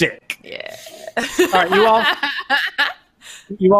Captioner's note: laughing